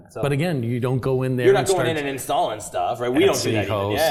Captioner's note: laugh